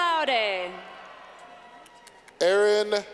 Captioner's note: clapping